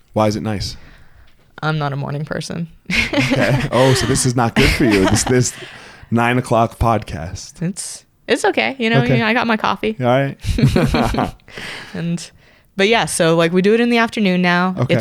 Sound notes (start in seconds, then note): 2.9 laughs; 10.4 both laugh